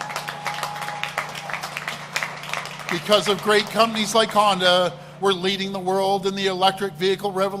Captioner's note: applause